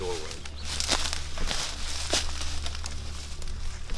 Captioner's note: rustling leaves